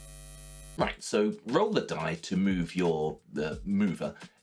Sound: logos buzz

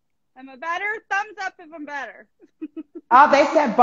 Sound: laughing

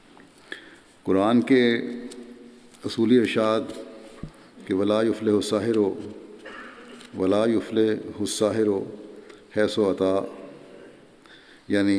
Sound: Arabic

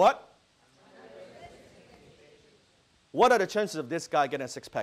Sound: audience calling out answers

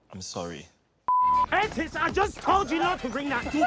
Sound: beep

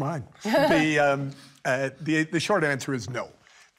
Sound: chuckles

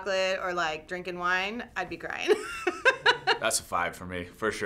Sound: laughs

